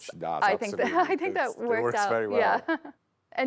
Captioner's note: laughs